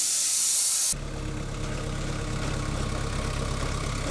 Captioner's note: motor rumbling